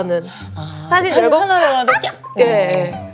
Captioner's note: squealing with his photo